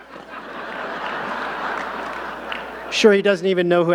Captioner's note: audience laughing